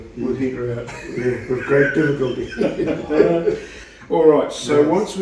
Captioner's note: laughing; more laughing